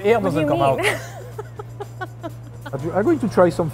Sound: laughs

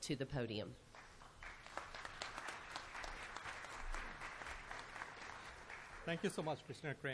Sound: applause

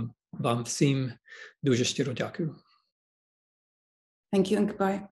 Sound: speaking in Ukrainian

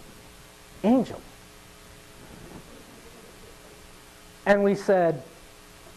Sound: audience laughing

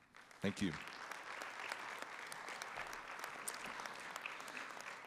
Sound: audience applauding

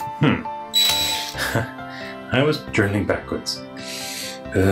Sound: laughs

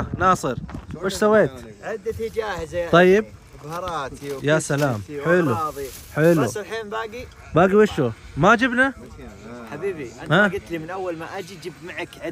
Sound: Arabic

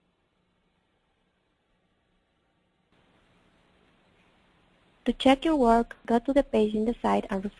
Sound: pause

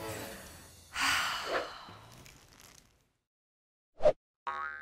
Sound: exhales

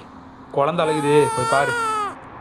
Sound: baby cries

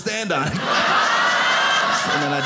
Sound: audience laughing

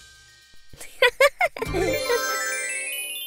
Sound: laughs

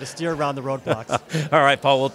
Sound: chuckles

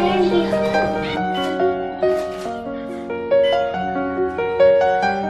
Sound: camera shutter clicking, piano music playing

